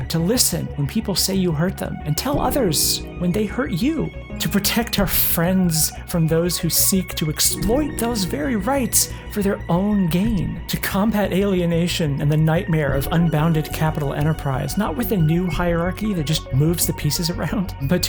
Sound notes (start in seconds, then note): none